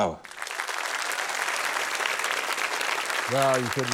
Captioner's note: applause